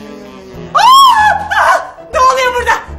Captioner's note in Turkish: Çığlık